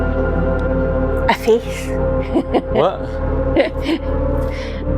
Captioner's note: laughter